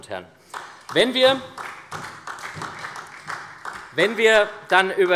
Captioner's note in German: Beifall SPD